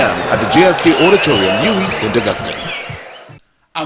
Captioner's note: wild applause and cheering for 22 seconds